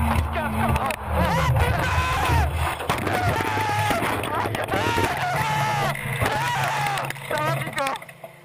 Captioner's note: crashing and screaming